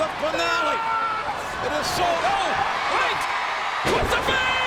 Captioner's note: Umaga screams